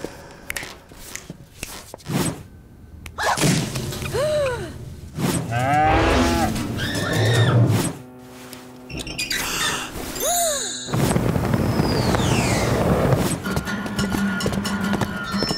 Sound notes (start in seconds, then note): 0.4 snapping; 4.0 gasping; 5.5 mooing; 5.5 screaming; 8.8 squeaking